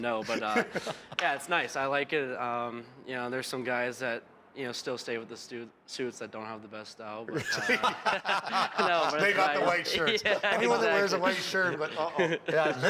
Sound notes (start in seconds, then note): 7.3 laughter